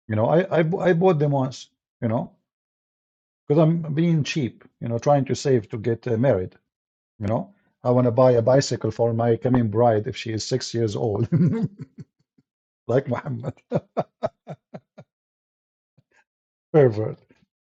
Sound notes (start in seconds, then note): 13.0 Ketawa